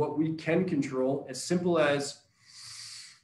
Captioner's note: deep breathing